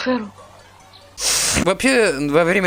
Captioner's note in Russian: саркастический швырк